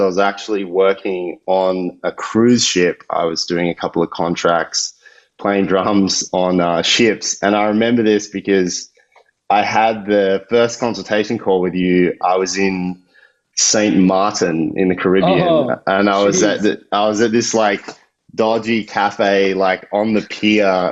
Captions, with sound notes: I was actually working on a cruise ship, I was doing a couple of contracts, playing drums on ships, (chuckles) and I remember this because I had the first consultation call with you, I was in Saint Martin in the Caribbean. - Uh-oh. - And I was at this like dodgy cafe like on the key,